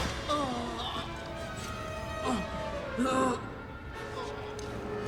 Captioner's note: gunfire clattering; Castellano groans